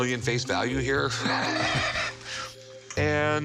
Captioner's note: laughter